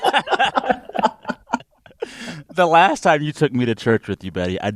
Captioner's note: laughter